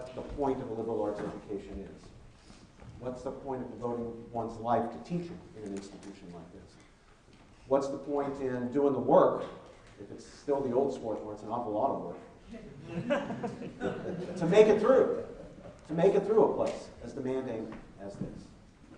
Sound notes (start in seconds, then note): 12.6 laughing